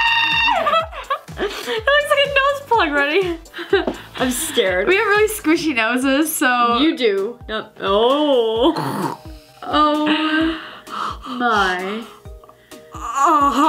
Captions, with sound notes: (screams) - It looks like a nose plug, ready? I'm scared. - We have really squishy noses so... - You do. Oh! (gags)